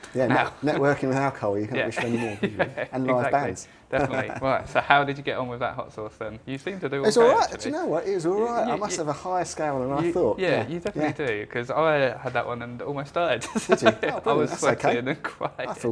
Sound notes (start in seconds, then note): 13.4 laughs